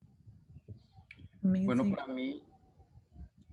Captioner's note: speaking Spanish